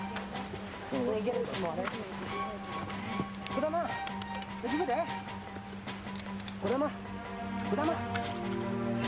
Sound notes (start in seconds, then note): 0.0 tense music; 3.6 man speaks in foreign language